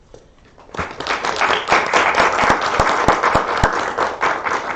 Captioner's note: applause